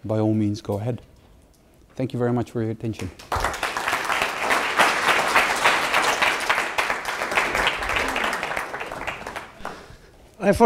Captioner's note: applause